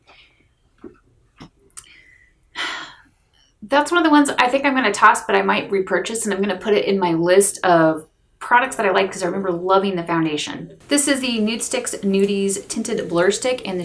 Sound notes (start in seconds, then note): 2.6 sighs